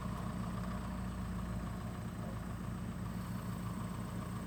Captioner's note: truck engine whirring